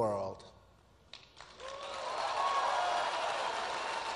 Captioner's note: applause